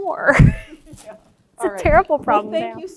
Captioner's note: laughs